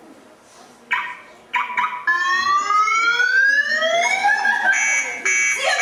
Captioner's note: sound of car alarm